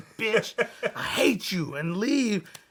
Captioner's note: laughs